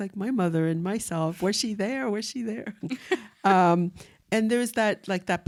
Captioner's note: chuckles